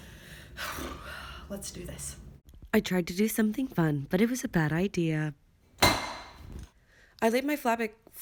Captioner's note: LOUD metal clang